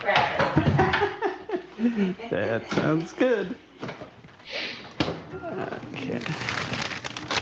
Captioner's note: laughs